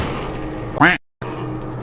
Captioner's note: quack